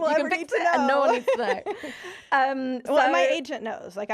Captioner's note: laughing